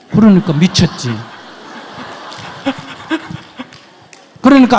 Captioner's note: audience laughs